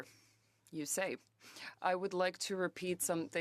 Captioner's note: speaking French